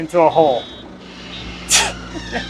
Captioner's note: laughs